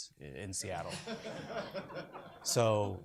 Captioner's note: audience laughs